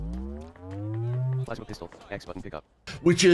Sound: electronic whirring

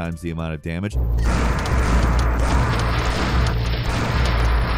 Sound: gun banging

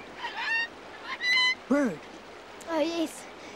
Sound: Snowy squawks

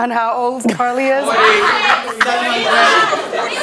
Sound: audience yells

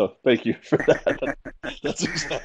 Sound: laughter

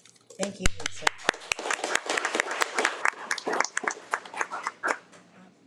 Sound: audience clapping

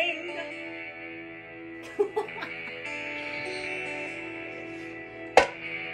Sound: laughter

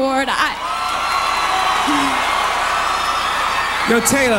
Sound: audience Applauds

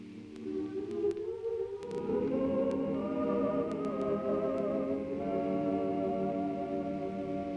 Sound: humming

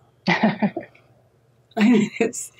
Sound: laughs

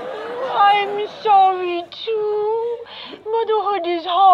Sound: baby talk

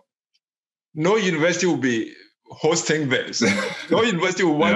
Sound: laughs

